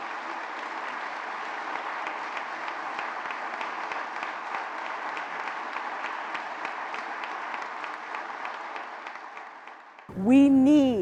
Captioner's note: applause